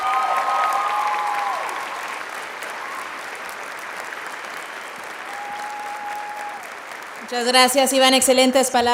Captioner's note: applauding